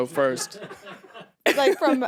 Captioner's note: producers laugh